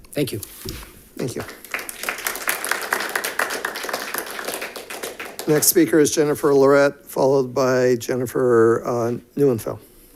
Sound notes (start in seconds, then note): 1.2 audience applauding